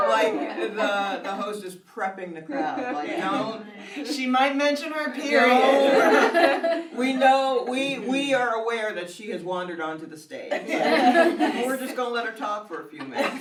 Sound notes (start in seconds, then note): 2.5 laughs; 5.6 audience laughs; 10.6 everyone laughs